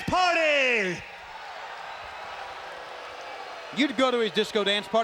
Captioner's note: crowd jeering